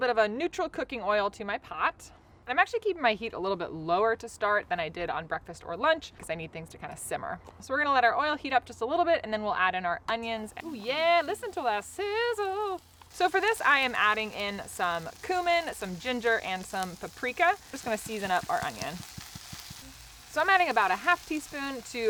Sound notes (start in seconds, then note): 19.3 tapping bottle